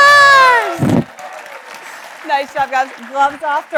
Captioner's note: audience applauds